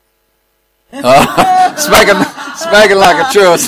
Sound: laughter

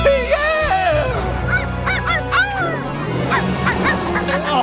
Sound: barking

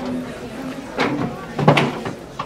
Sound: chair falls

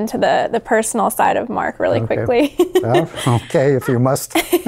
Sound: laughs

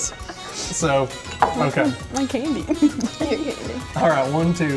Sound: laughs

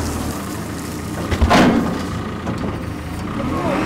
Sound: log thuds; telehandler engine revving

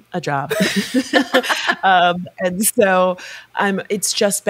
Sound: laughing

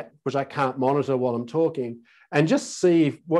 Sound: none

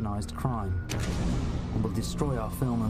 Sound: explosion

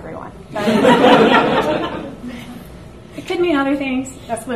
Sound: audience laughs

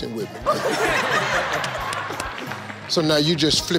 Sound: audience laughing

